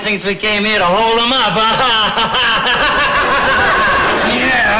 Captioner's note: laughs